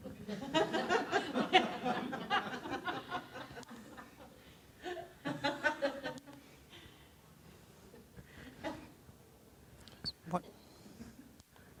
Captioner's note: audience laughter